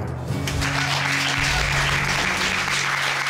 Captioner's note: applause